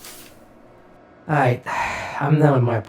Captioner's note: exhales